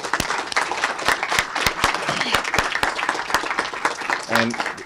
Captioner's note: applause